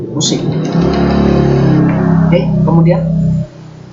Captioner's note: motorcycle Sounds Passing